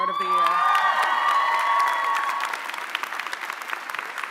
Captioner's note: audience applauding